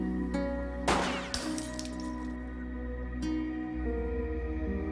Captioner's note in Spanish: Disparo